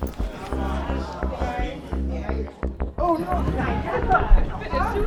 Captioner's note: crowd whispering